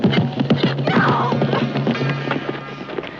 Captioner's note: Mae yelling